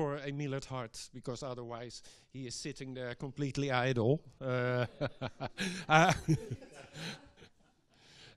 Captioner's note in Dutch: Gelach